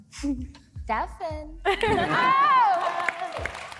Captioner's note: applause